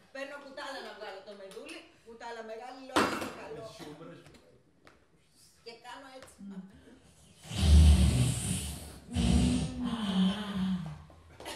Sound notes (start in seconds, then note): 7.3 deep squishy sip